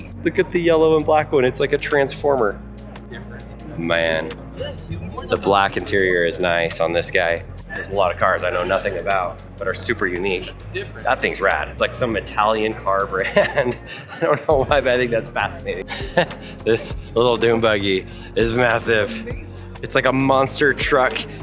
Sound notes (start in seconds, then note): 12.9 laughs; 16.2 chuckles